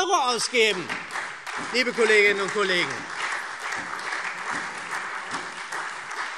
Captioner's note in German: Beifall SPD und Freie Demokraten